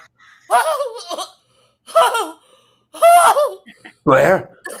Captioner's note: coughs